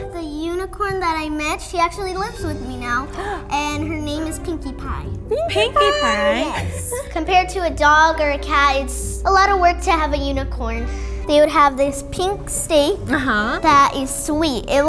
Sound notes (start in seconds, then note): 3.1 gasps